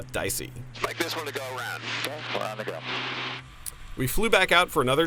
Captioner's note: talks over radio